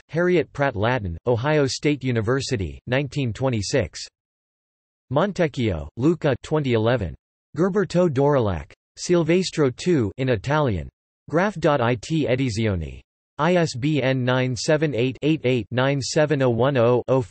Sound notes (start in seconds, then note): 11.2 in Italian